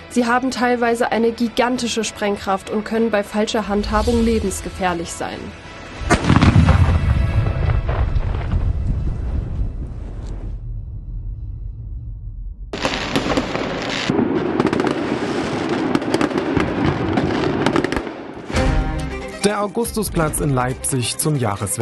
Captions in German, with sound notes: Sie haben z.T. eine gigantische Sprengkraft. Sie können lebensgefährlich sein. *Knall* *Explosionen* Der Augustusplatz in Leipzig zum Jahreswechsel.